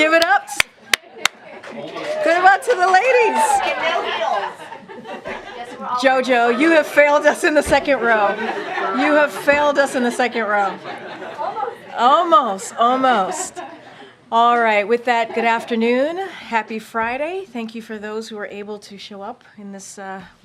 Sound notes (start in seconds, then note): 1.5 applause; 10.6 laughter